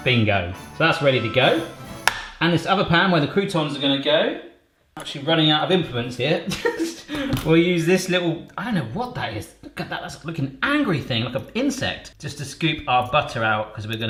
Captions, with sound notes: Bingo, so that's ready to go. And this other pan where the croutons are gonna go. Actually running out of implements here (laughs). We'll use this little, I don't know what that is. Look at that, it's like an angry thing. Like an insect. Just to scoop our butter out cause we're